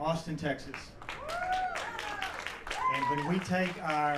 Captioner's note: cheers